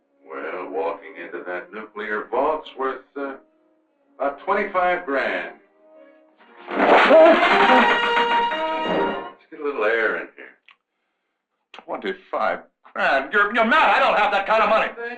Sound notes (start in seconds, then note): 6.5 Krenner yells; 6.5 shades rattling